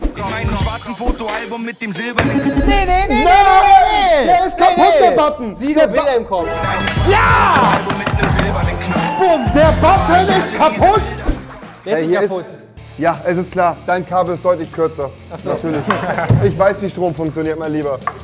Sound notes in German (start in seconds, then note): 6.8 Jubelruf